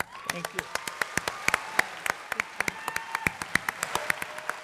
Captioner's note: applause